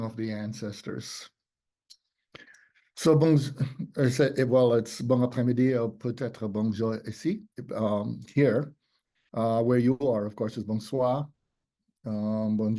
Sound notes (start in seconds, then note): 4.0 speaks in French